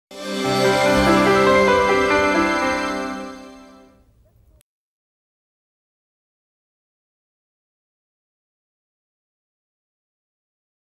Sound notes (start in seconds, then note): 0.3 nostalgic background chime with piano playing; 5.5 silence